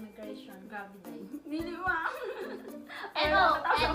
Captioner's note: giggles